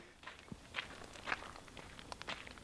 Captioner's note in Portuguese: Passos na terra